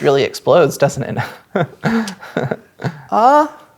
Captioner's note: laughs nervously